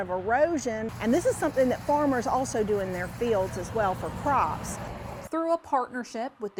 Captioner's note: nat Sound: cars on roadway